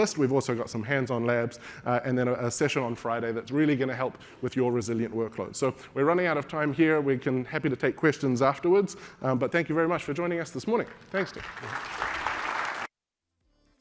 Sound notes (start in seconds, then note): 10.8 applause